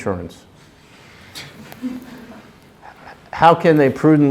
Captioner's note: chuckling